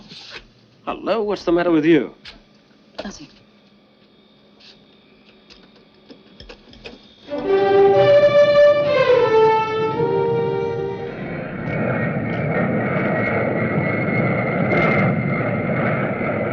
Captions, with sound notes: - Hello, what's the matter with you? - Nothing. (upbeat music) (plane whirring)